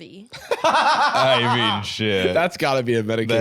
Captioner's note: laughing